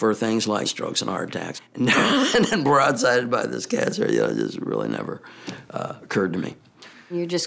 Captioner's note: laugh